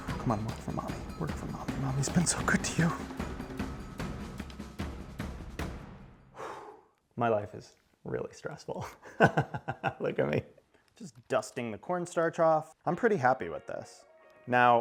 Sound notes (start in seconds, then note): 0.0 dramatic music; 8.9 laughs